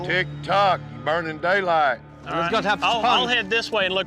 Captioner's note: all chattering